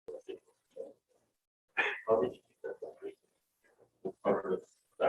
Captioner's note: speaking distantly